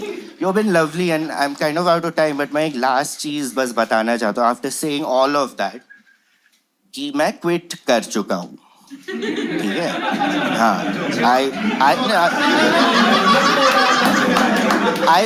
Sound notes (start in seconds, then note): 11.5 crowd shouts “lies!”